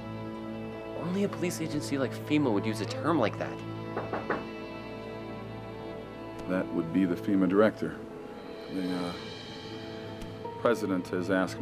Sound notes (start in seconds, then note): 3.9 knocking